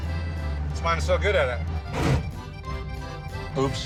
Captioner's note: gears grinding